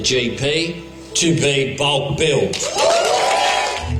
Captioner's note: cheering and applause